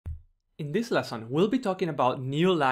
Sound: voiceover

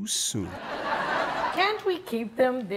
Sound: audience laughs

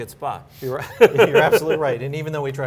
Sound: laughing

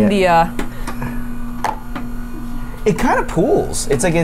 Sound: machine whirring continues

